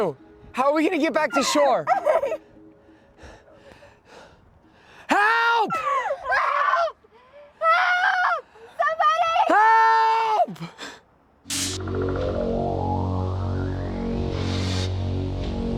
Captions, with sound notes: HOW ARE WE GONNA GET BACK TO SHORE? [ BREATHING HEAVILY ] HELP! HELP! HELP! SOMEBODY! HELP!